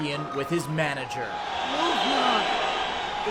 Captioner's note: audience boos